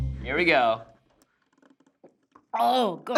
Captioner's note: gulping